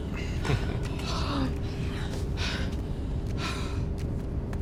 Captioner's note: exhaling deeply